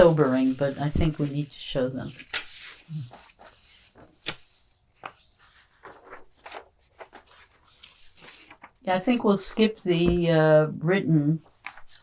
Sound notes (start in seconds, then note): 2.1 pauses 6 seconds